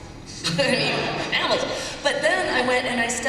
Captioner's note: laughter